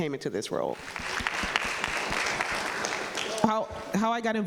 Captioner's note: audience applauding